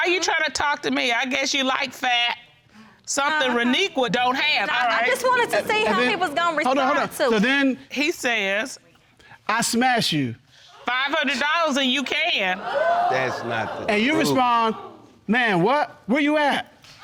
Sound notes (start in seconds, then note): 12.6 audience exclaims